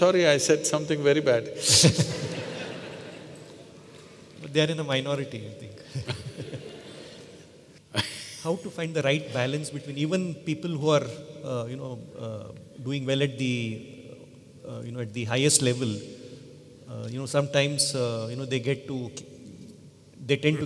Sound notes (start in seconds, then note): 1.7 laughter; 7.3 laughter